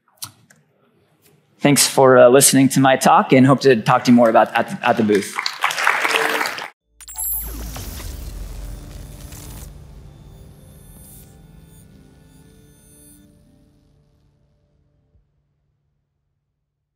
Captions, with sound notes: Thanks for listening to my talk and hope to talk to you more about at the at the booth. (crowd clapping) (graphics glitching)